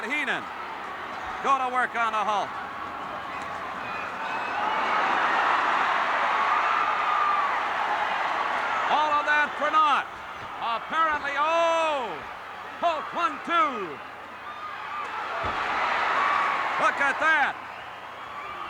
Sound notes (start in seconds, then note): 5.4 crowd cheers